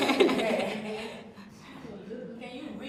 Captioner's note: laughter